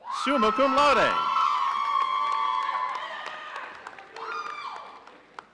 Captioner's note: audience cheering